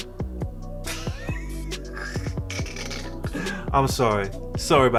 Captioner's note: snickering